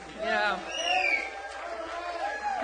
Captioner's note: audience applauds; audience member shouting; cheering